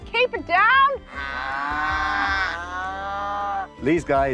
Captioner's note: mooing continues